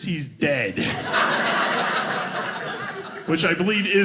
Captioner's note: audience laughing